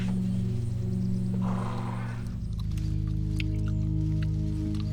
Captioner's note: horse braying